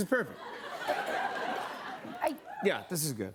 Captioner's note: laughter